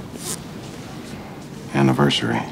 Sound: pants zipping

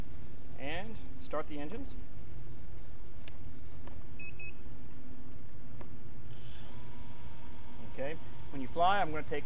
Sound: starting Beeps

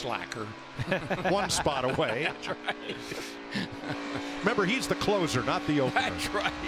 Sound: laughs

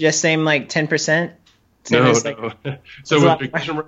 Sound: laughs

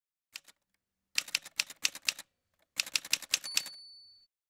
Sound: typewriter sounds

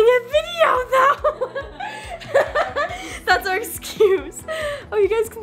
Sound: laughing

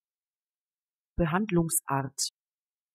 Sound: fast Pronunciation

